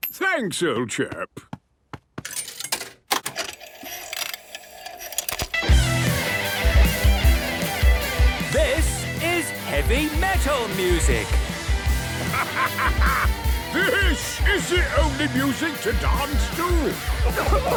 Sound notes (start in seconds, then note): 3.1 clicks, whirring; 5.0 heavy metal music plays; 8.7 shouting